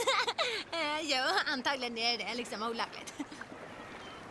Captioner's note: laughing; laughs